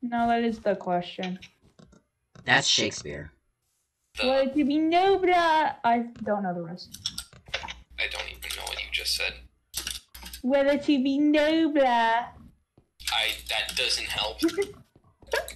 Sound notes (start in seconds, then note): 4.3 "Shakespearean" accent; 5.5 normal voice; 10.6 obnoxious accent